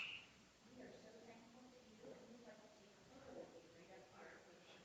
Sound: people murmuring

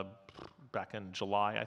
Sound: blows raspberry

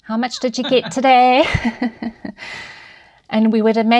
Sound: chuckles

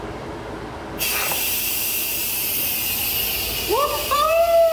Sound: vent hissing

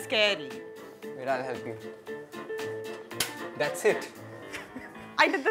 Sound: stove clicks

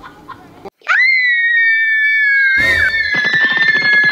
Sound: screaming

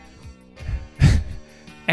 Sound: laughing; wheezing

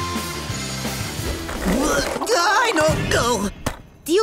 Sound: groaning

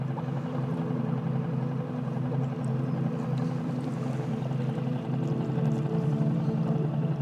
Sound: motor softly rustling; soft tranquil music

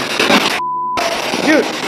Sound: beep

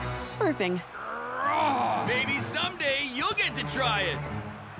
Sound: angry grumbling

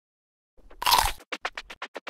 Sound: apple crunch

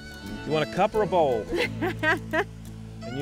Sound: laughs

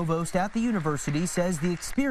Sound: nats: hands clapping

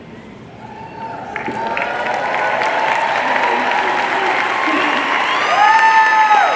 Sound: audience cheering and applauding

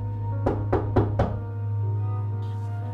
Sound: knocking

